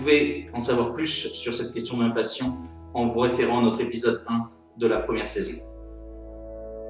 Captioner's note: in french only